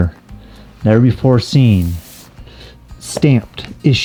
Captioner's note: paper crinkling